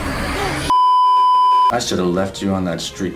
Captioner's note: beeeeeep